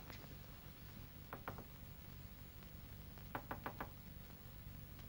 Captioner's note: knocks lightly